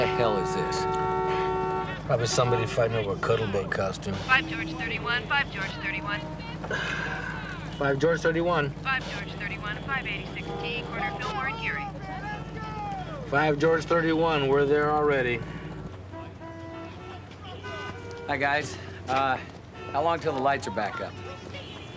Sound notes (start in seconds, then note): 16.7 horns honking